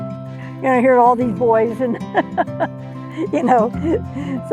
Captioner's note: laughs